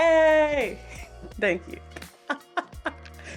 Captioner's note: laughs